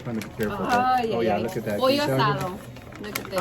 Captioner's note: speaking in Spanish